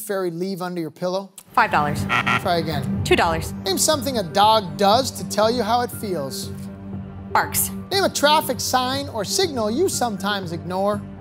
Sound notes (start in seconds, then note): 2.0 beep, beep